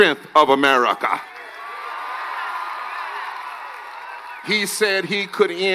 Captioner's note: cheers and applause